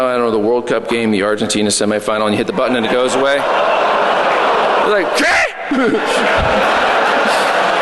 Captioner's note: laughter